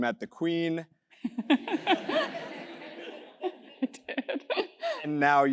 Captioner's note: laugh